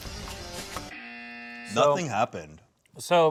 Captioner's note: buzzer buzzes